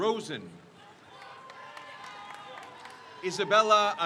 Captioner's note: crowd cheers